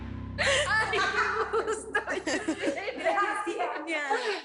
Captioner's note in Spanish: Risas